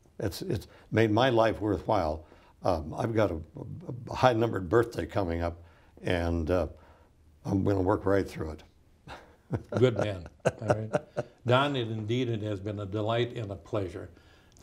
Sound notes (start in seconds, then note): 9.0 laughs